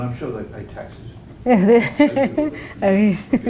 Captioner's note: laugh